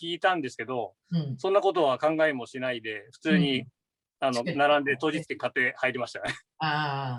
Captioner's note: haha